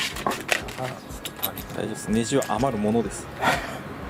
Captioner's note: laughs